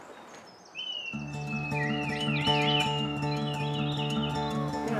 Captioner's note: red kites make whistling call